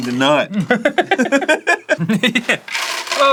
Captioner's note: mature laughter